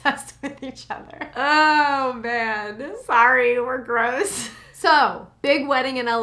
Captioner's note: laughs; laughs